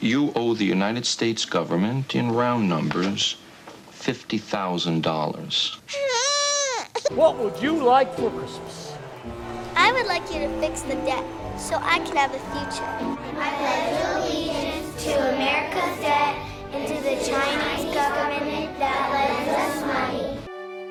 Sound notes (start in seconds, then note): 5.9 cries